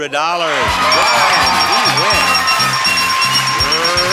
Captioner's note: audience cheers